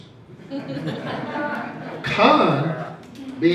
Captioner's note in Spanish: risas